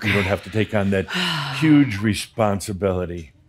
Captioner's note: she exhales audibly